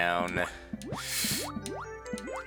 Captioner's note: breathing